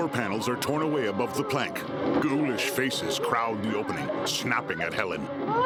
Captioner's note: Helen crying